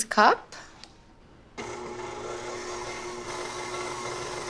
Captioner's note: whirring